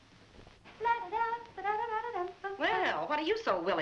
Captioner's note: humming